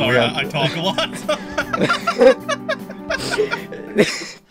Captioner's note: both Laughing